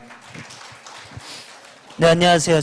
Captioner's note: claps